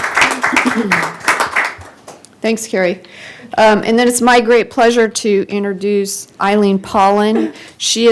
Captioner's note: applause